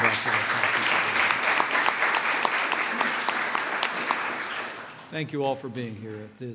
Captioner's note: applause